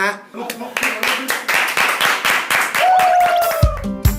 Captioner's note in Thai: เสียงปรบมือ